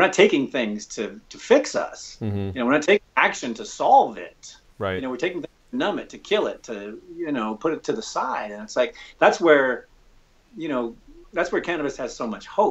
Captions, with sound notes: We're not taking things to fix us. We're not taking action to solve it. We're taking (audio skips) to numb it, to kill it, to put it to the side, and it's, like, that's where cannabis has so much hope.